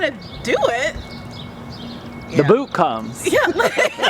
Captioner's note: laughter